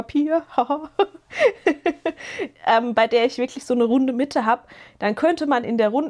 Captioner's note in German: gelächter